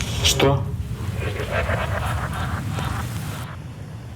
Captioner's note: evil laughter